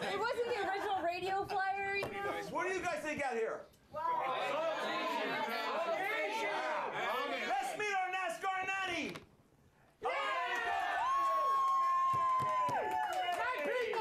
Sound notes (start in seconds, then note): 7.0 audience shouts answers; 13.0 audience cheering